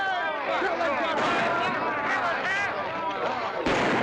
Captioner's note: drunken commotion; gunshot; drunken commotion; gunshot